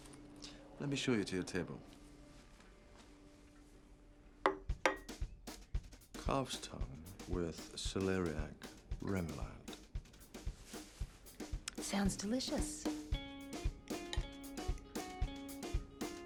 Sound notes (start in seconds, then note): 4.8 plate thuds; 13.4 upbeat music